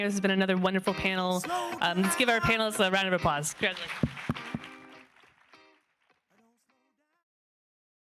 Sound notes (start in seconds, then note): 4.5 audience clapping